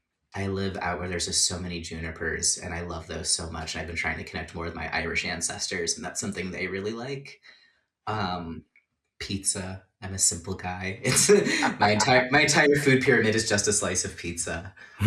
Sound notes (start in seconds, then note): 11.0 laughter